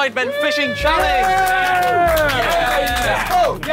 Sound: Sidemen cheering and clapping

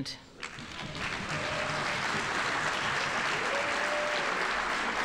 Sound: audience applauding

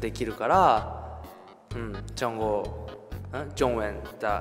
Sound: he's trying to say Chinese

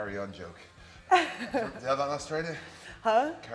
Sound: laugh

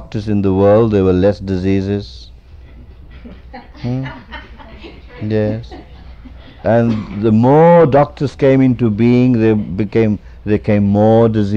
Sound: laughter

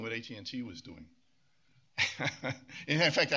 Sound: laughs

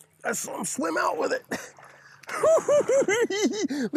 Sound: giggling

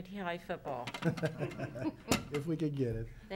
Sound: people chuckling

